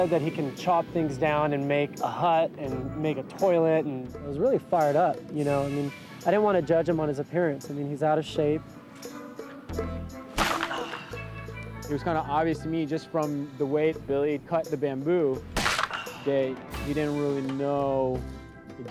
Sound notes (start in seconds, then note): 10.4 bamboo cracks; 10.4 grunts; 15.6 bamboo cracks